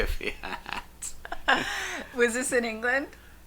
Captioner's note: laughing